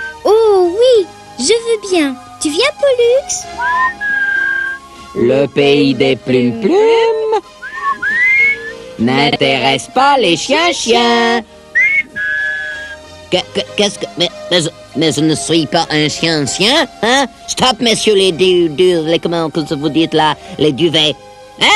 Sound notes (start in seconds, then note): 3.7 ils sifflent